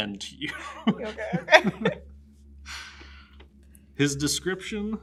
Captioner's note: laughs